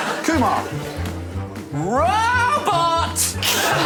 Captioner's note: laughter